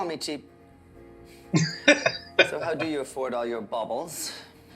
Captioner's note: laughing